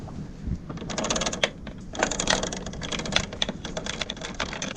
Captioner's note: chain clinking